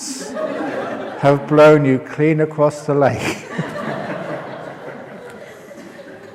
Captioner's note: laughter